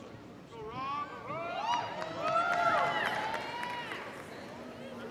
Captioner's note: audience applauding